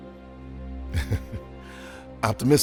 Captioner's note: Bax chuckles